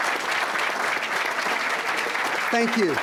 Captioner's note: applause